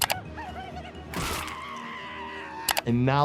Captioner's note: Wendy screaming